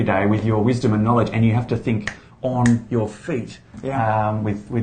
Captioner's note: snaps fingers